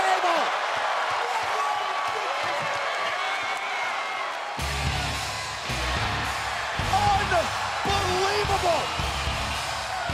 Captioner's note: applause